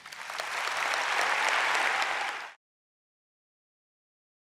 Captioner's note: audience applauds